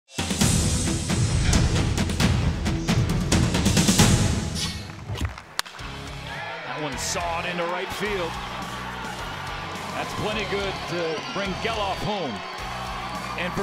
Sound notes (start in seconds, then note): 4.8 crack of the bat